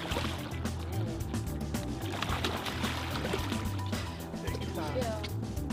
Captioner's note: splash